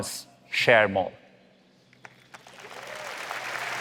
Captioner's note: applause